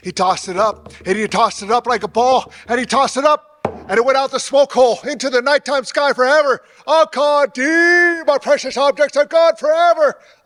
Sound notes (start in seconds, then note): 3.6 drum beats; 7.3 speaking in foreign language